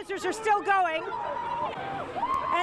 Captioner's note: people screaming